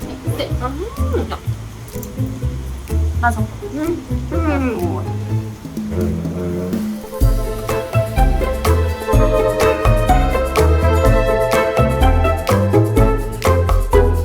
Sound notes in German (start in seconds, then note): 0.8 Spricht in einer Fremdsprache; 3.1 stöhnt; 5.7 Fröhliche Musik